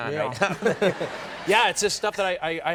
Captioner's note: audience laughs